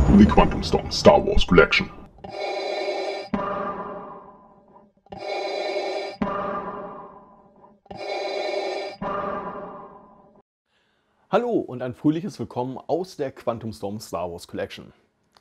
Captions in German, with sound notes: The QuantumStorm's Star Wars Collection [Darth Vader Atemgeräusche] Hallo und ein fröhliches willkommen aus der QuantumStorm's Star Wars Collection.